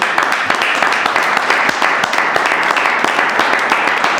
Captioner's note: audience applauding